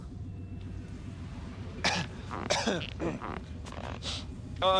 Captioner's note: coughing, clears throat